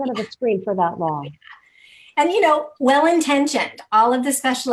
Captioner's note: laughing